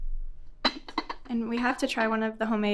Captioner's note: teapot clinking